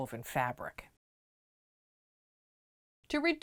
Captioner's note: no Sound Present